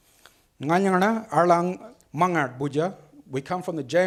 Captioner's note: speaks foreign language